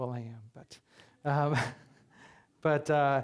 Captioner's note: chuckling